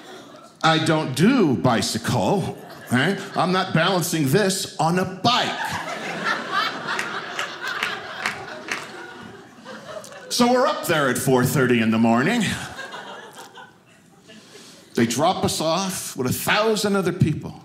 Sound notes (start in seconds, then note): 5.4 audience laughing